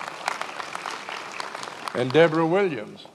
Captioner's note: many applauding